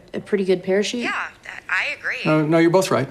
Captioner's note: on phone